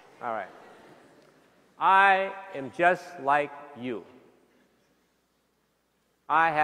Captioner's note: laughter